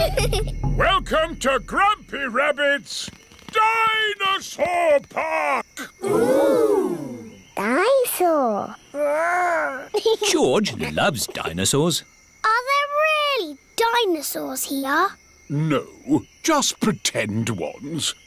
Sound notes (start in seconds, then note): 0.0 children giggling; 10.7 giggles